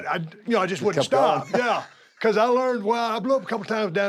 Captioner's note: laugh